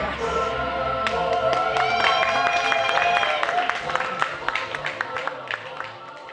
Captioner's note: clapping and cheering